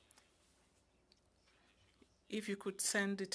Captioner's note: speaking French